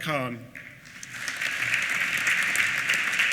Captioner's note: applause